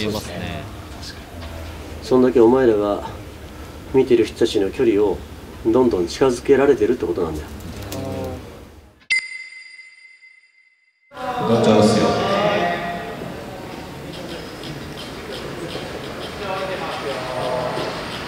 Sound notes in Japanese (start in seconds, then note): 7.6 感嘆の声; 9.1 ピックアップ 効果音